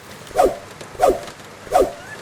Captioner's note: rain